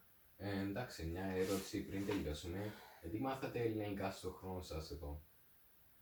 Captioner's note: sighs